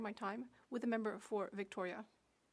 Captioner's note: speaking French